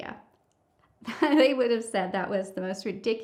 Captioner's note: chuckles